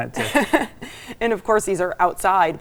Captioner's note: chuckling